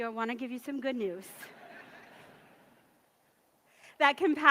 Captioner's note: audience laughs